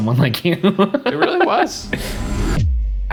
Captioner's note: laughing